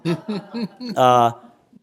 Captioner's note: laughter